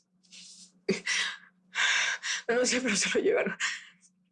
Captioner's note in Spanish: Sollozos